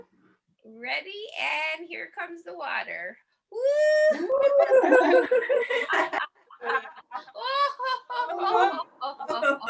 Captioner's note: laughter